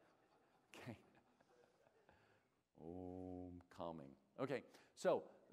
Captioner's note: laughter